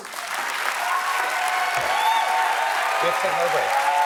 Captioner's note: applause